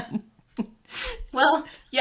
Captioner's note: chuckles